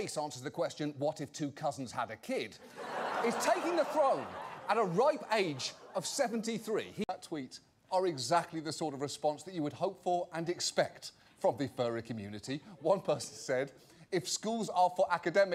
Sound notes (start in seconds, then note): 2.6 audience laughter